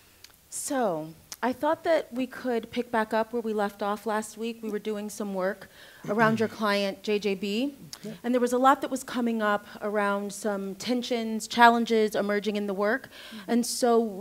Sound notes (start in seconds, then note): 1.1 clicks tongue; 6.0 man clearing throat